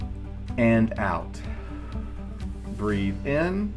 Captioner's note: long exhaling